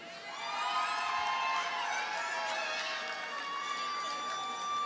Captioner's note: audience cheers and applauds